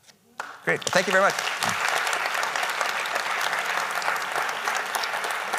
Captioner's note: audience applauding